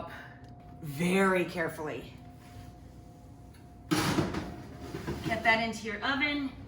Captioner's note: pan clattering